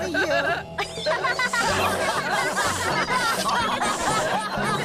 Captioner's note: laughter